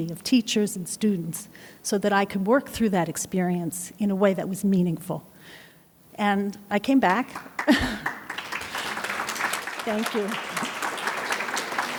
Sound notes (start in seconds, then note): 7.3 audience claps; 7.6 laughs